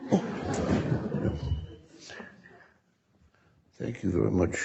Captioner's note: audience laughing